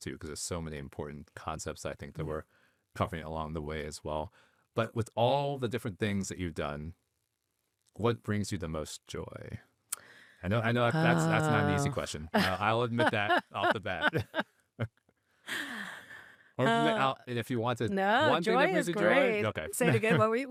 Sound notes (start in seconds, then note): 12.3 laughing